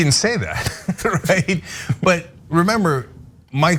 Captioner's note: laugh